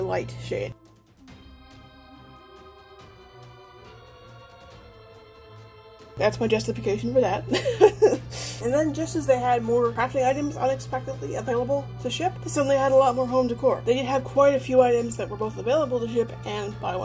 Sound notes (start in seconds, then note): 1.0 spooky music; 7.5 laughs